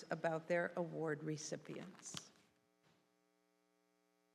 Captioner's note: none